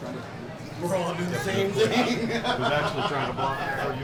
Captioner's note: laughs